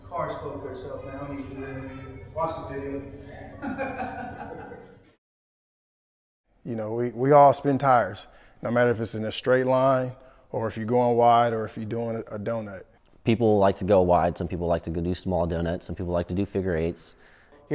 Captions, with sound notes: - The car spoke for itself man, I don't need to do anything. Watch the video. (chuckling) - We all spin tires, no matter if it's in a straight line, or if you're going wide, or if you're doing a donut. - People like to go wide, some people like to go do small donuts, some people like to do figure eights.